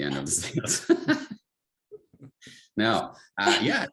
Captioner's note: both laugh